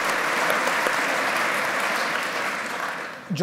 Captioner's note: applause